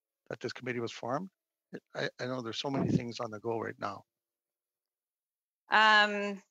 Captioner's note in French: voix de l'interprète